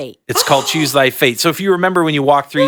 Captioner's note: panelist gasping